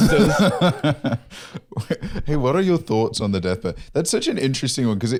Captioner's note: laughs